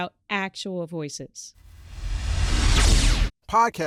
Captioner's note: electronic whoosh